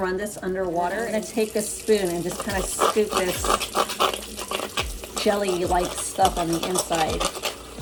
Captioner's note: scrape